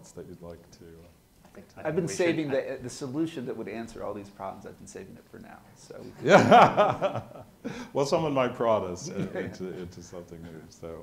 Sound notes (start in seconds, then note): 6.0 laughs